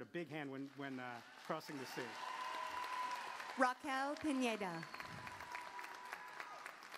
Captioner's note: applause